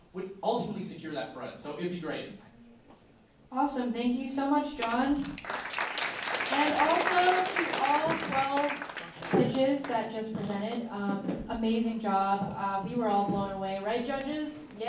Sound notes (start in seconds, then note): 4.8 applause